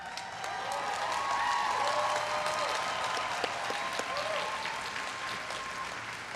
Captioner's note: everyone cheering and applauding